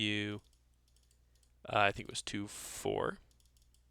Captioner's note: ticks